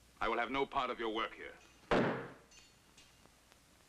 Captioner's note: thudding